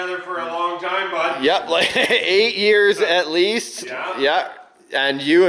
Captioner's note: laughs